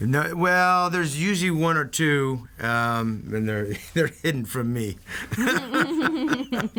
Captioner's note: laughs